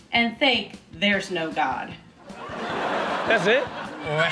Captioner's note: audience laughs